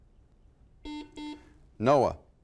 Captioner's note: buzzer